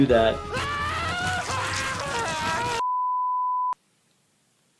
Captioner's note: Cuddles screaming